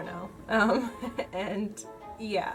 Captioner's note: laughs